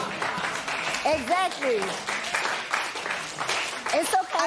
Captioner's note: applause